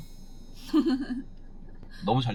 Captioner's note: hehehe